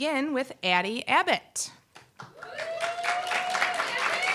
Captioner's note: applause, cheer